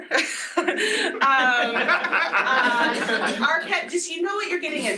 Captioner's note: laughter